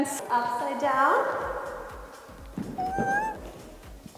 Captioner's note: whimpering